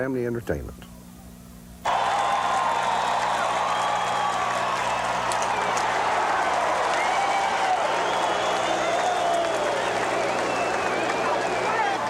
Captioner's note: crowd cheering